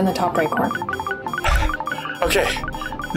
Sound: out of breath

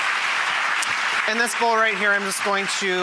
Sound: audience clapping

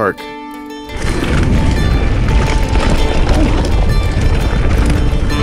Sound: tires rumbling on the ground

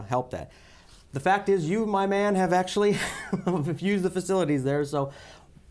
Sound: laughter

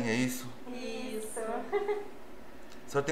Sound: laughs

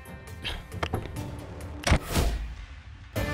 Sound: door opens; door closes

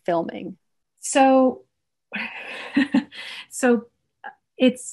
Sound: chuckles

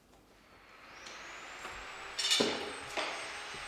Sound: distant sawing noise

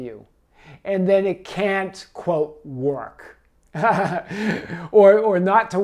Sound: laughs

